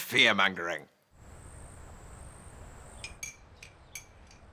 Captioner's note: crickets chirping; spoon clinking